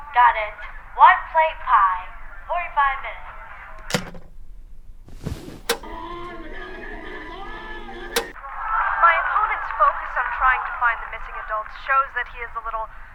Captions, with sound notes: Got it. One plain pie, forty-five minutes. [ TV clicking ] >> My opponent as I'm trying to find the missing adults shows that he is a little,